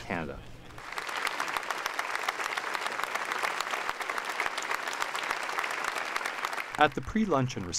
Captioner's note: applause